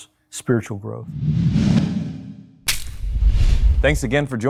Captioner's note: air whooshing